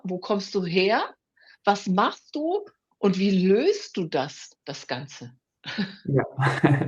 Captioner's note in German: gelächter